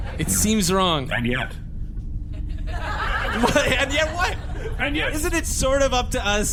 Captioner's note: audience laughter